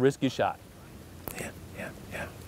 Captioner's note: whispering